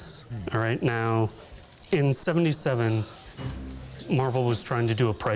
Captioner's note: none